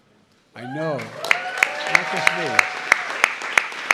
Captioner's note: applause